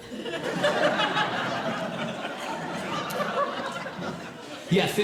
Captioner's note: audience Laughing